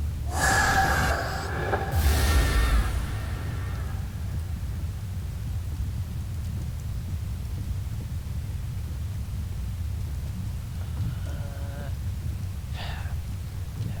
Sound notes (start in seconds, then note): 12.8 sigh